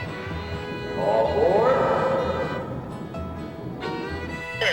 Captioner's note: voiceover